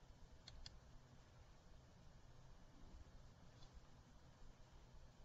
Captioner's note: computer mouse clicks